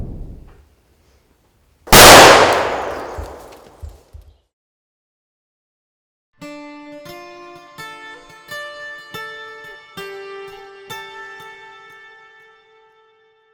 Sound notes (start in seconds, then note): 1.9 gunshot firing; 7.0 melancholy music